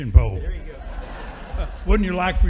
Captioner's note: audience laughing